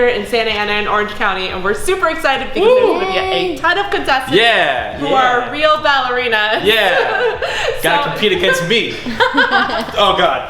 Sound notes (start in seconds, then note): 8.2 laughter